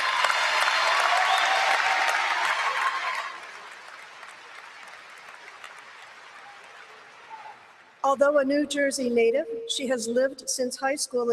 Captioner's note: applause